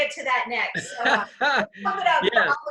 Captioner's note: laughs